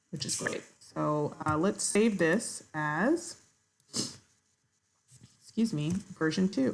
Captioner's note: sniffs